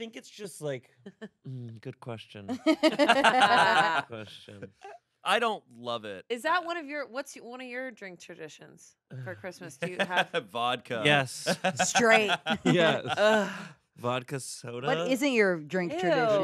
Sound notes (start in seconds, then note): 2.5 everyone laughs; 12.6 everyone laughs; 12.6 groans